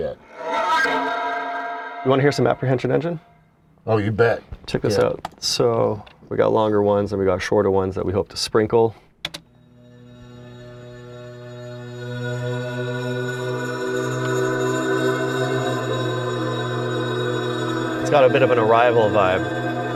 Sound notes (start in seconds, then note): 0.0 hypnotic sound; 9.2 apprehension engine sound